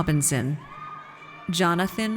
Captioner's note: audience cheers